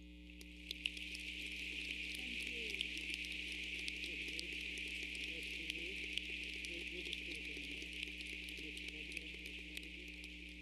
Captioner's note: clapping